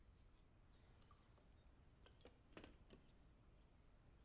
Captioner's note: pájaros pitan a distancia